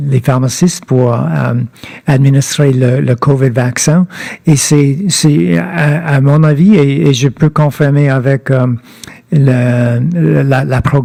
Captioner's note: speaking French